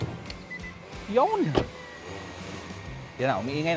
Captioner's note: door thuds